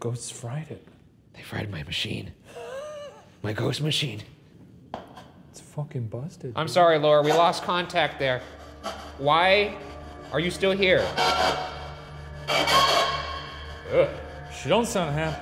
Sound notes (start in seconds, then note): 2.5 laughs; 10.8 spirit box buzzing; 12.9 voice screams